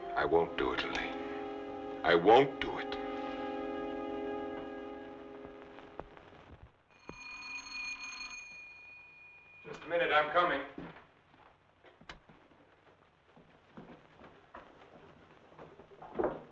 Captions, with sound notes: - I won't do it, Elaine, I won't do it! (bell ringing) Just a minute, I'm coming. (footsteps thumping) (door rattling)